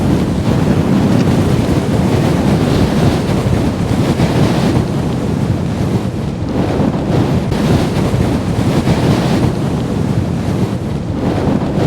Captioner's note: strong wind noise